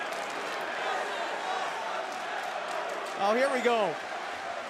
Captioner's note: crowd cheering